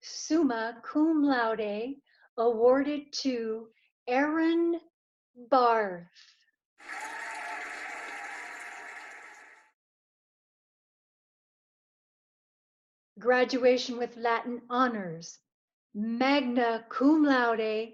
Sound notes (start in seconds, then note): 6.8 cheering and applauding